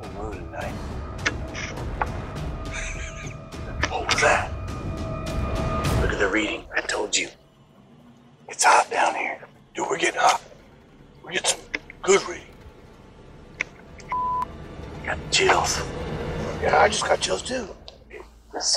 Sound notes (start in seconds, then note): 2.6 laughs; 14.2 suspenseful music